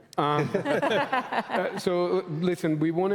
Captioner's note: laughter